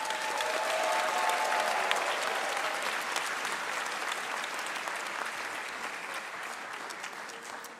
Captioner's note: applause